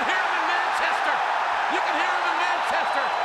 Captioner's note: crowd cheering